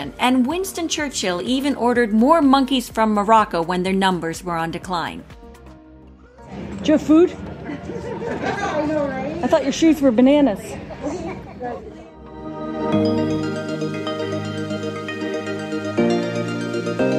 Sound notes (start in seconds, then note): 7.4 people laughing; 13.6 upbeat music continues